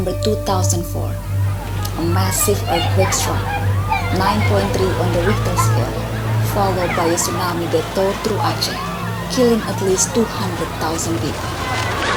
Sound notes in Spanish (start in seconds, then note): 1.0 Gritos de personas; 11.9 Gritos, agua que corre